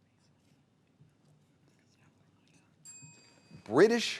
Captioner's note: players whispering; bell dinging